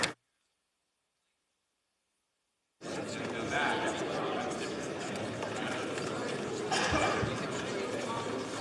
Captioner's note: some Applause